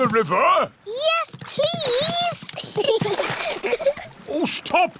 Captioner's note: giggles